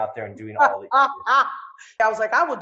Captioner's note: laughs